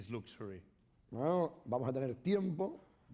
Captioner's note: speaking spanish